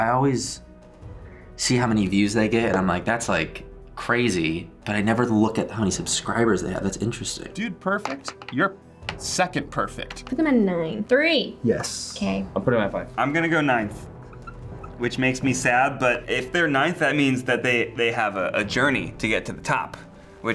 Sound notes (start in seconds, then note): none